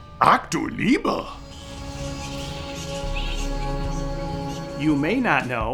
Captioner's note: bats chittering; narrator imitates Einstein speaking German